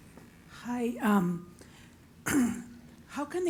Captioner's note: cough